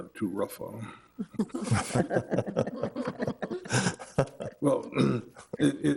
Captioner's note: all laughing